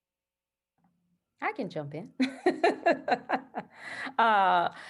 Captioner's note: laughs